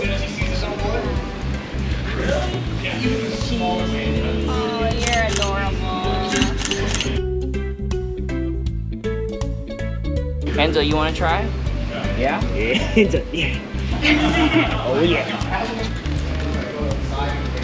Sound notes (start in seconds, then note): 6.2 camera clicking; 12.6 laughs